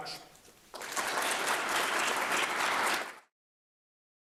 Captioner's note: applause